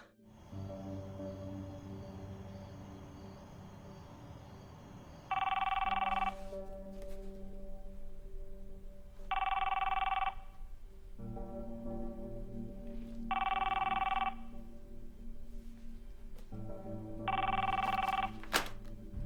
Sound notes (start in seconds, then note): 0.1 night bush noises; 5.2 phone rings; 9.1 phone rings; 12.9 phone rings; 17.1 phone rings